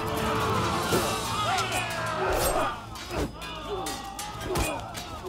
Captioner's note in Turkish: İnliyorlar; Kılıç sesleri